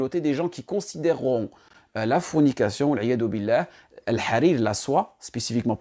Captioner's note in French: langue arabe